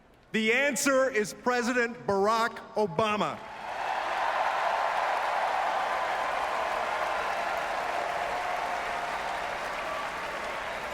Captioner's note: applause